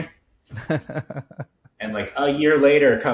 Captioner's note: laughing